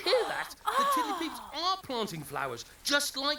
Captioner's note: gasping